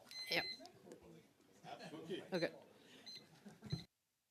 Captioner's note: beeping